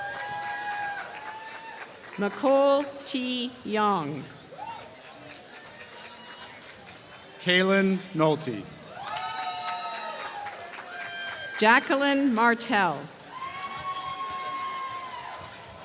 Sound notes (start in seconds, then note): 0.0 applause; 8.8 applause